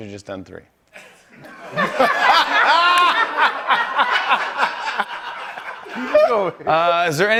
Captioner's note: laughter